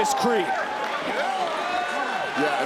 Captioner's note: audience chattering